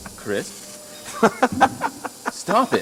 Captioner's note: continues laughing